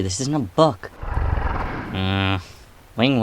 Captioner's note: Azazel Growls